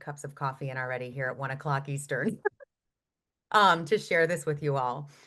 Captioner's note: laughs